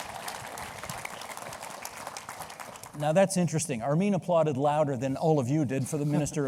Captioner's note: applause